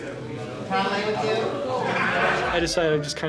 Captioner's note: laughter